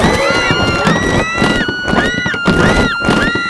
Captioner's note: screams; crash